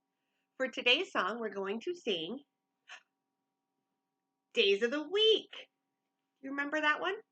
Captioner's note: tiny gasp